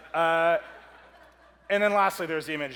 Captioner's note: audience laughs